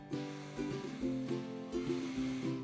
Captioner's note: inhale